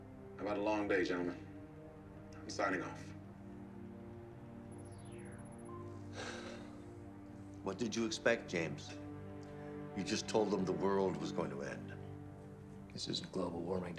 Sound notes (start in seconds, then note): 6.0 sigh